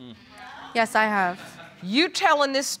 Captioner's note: audience laughs